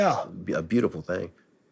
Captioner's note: none